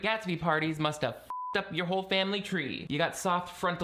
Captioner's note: beeping